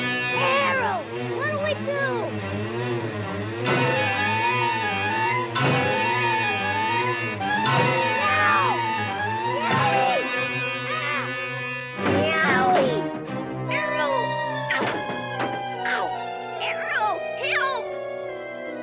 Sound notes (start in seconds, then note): 3.7 bees thudding against trunk; 9.5 Oblio yelling